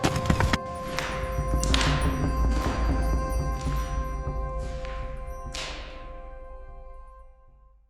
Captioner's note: water splashes; stones thud; instrumental music plays